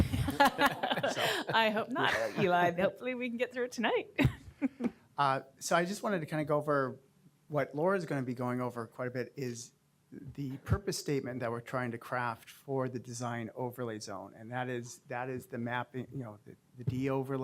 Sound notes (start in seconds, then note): 0.0 laughter; 4.5 laughter